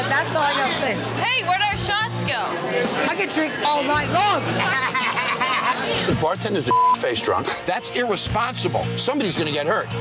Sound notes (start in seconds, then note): 4.5 laughs; 6.7 beep